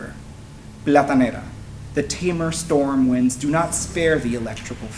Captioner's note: spanish